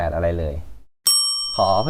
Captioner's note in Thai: เสียงกระดิ่ง